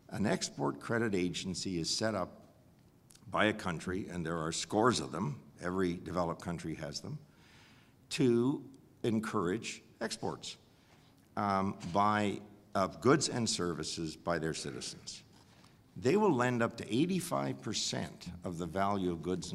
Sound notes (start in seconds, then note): none